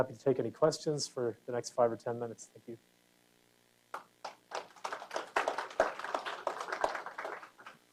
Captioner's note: applause